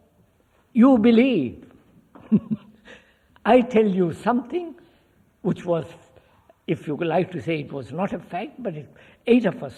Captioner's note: laughs